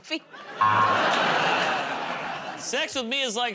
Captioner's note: laughter, buzzer